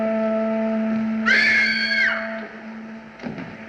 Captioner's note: woman Screams